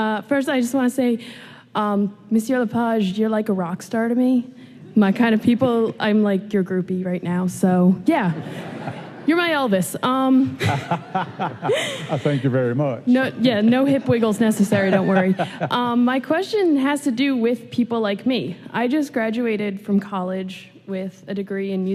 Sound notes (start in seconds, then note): 10.5 laughing; 11.0 imitating elvis